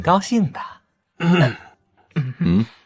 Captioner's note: cough